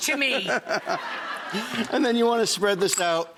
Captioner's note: audience laughing